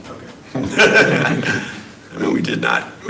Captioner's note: laughing